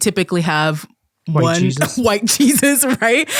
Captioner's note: laughs